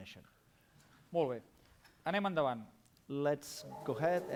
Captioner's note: non-english speech